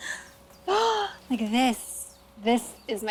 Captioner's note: gasps